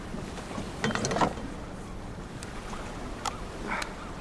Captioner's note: object clatters